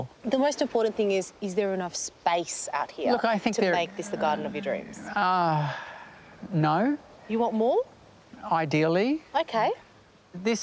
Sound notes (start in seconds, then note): 5.9 sighs